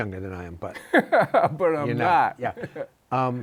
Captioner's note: laughs